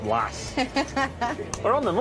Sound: dealer laughing

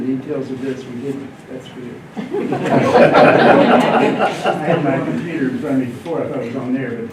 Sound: laughter

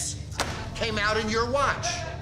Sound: food basket slams

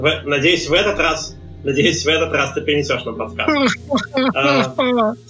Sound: moans sadly

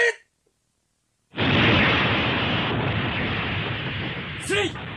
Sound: SFX: explosion

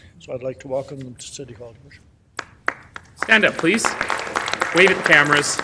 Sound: applause

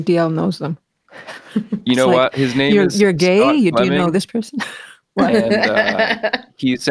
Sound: laughs

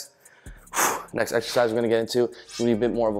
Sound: exhales

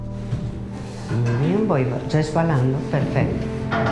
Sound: speaks foreign language

